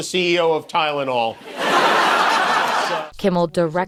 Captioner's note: laughter